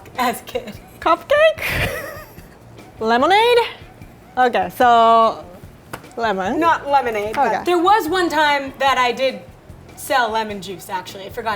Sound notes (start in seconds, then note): 2.8 laughing